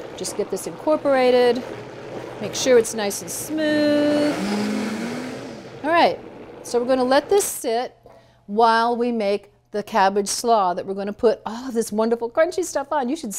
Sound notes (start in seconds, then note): 4.5 blender whirring